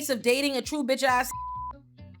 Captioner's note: beep